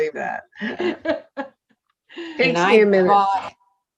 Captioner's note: all laughing